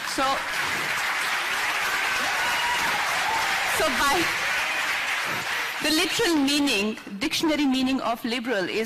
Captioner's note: applause